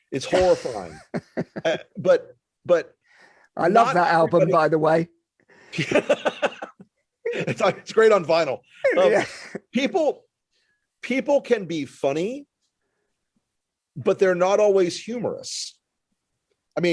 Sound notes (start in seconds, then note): 5.8 laughing